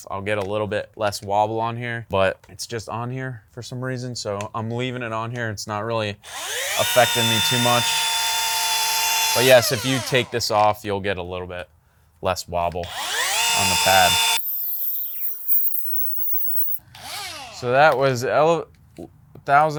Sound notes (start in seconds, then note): 8.1 machine whirring; 14.4 tape forwards